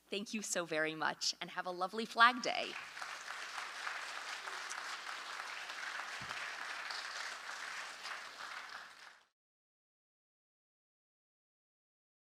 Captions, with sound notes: Thank you so very much, and have a lovely Flag Day. [AUDIENCE APPLAUSE]